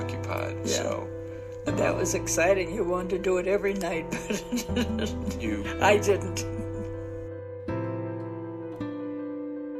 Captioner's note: laughs